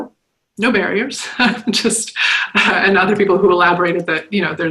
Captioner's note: chuckles